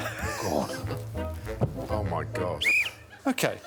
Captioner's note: blows whistle